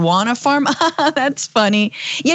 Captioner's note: laugh